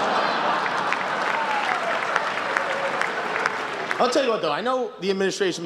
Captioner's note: laughter, applause